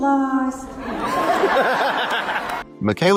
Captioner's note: laughter